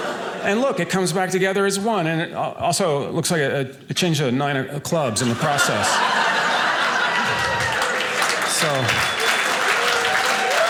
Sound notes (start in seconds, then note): 5.2 audience cheering; 9.0 audience applauding